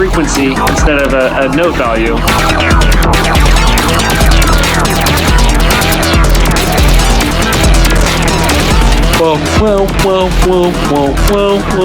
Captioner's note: squak